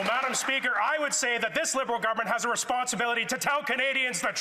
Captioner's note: some Applause